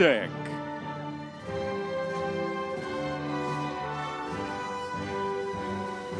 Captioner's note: audience members cheering